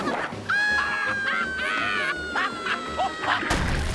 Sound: laughing

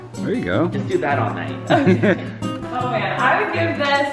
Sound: laughing

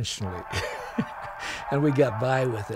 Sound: chuckling

